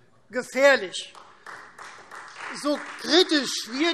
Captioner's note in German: Beifall Freie Demokraten